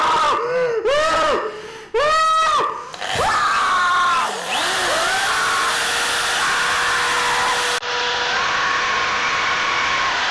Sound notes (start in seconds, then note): 2.8 drill buzzes; 3.1 woman screams